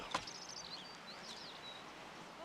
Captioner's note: birds chirping